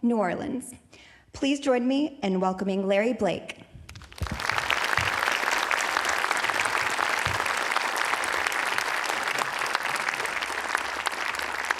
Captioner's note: audience applauding